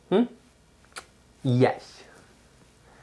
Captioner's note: lips smooching